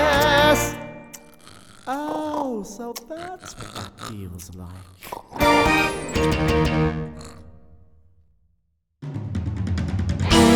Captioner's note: snoring; menacing underscore